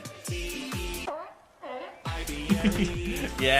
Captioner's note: seal honking